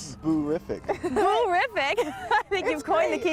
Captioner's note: laughter